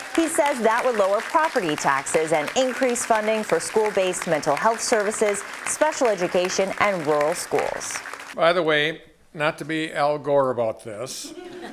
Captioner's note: applause